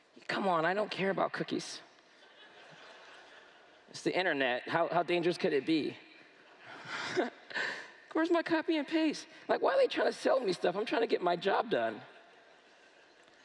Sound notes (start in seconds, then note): 2.1 laughter; 6.6 laughs